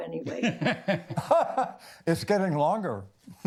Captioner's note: laugh